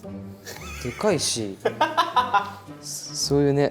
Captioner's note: laughing hysterically